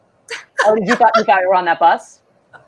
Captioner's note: laughs